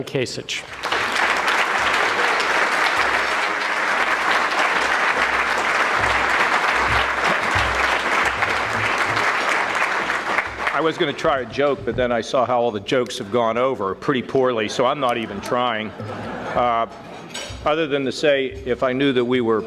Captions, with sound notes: (audience clapping) - I was gonna try a joke but then I saw how all the jokes have gone over, pretty poorly, so I'm not even trying. (audience laughing) Other than to say if I knew that we were gonna